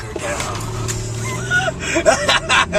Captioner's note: laughs hysterically; wheeze